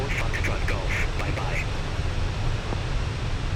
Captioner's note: radio chatter